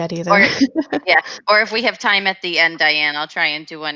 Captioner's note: laughs